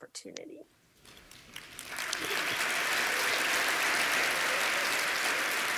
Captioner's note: applause